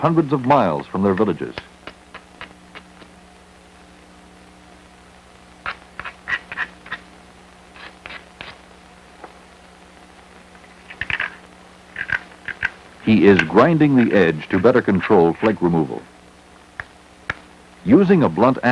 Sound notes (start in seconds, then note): 3.5 sound of grinding rock